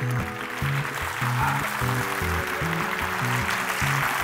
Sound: laughing; clapping

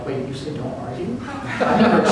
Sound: laughter

